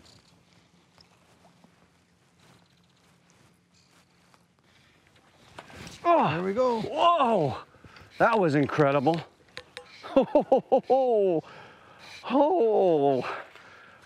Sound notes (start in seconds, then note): 6.0 grunts; 9.8 laughs